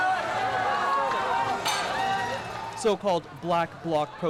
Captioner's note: people shouting